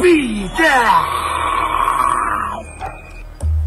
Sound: growls

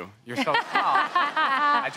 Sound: all laugh

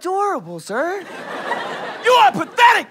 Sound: audience laughter

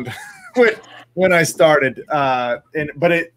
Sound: laughs

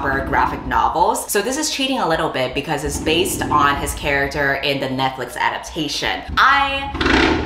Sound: motorcycle revs

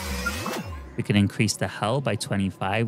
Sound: engine noises

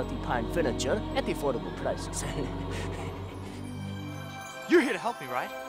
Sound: laughs

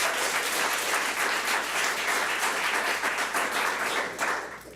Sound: public applauding

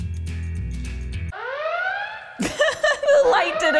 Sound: Star Trek TNG Red Alert siren plays

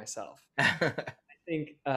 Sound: laughs

